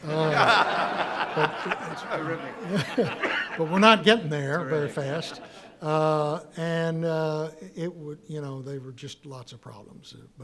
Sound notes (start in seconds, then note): 0.0 audience laughing; 2.8 laughs